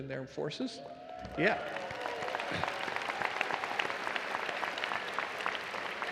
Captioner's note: attendees cheering